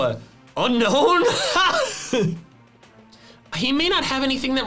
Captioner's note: laughs